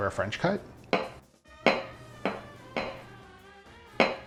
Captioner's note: knife bangs